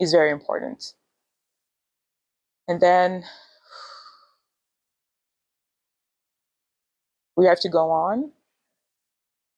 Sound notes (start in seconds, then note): 3.3 exhales